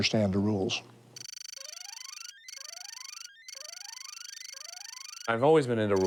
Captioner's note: electronic beeps